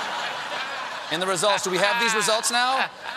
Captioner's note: laughter